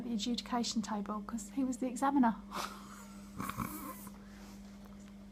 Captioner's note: laughs